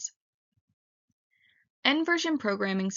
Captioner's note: pause